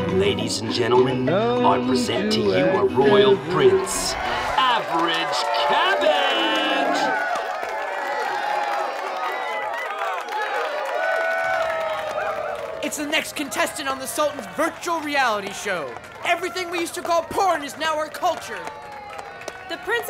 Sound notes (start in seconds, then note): 7.1 cheering